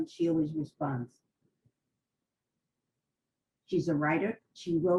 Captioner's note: pauses for 3 seconds